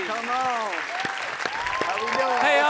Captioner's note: audience applauding; audience cheering